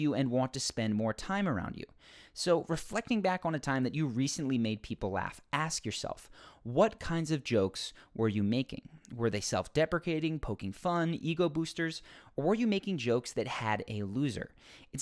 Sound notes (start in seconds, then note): none